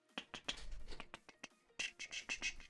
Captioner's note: humming